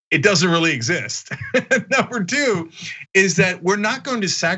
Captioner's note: laugh